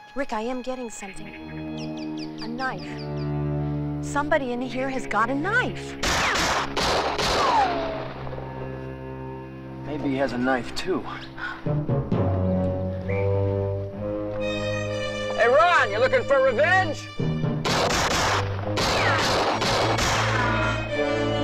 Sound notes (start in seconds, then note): 6.0 gun firing; 11.8 tense music; 17.6 gun firing